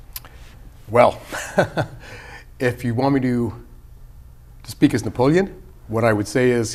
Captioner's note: laughter